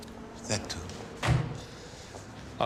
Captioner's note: pintu mobil dibanting